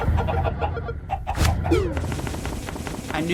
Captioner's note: Undertale Title Drop Sound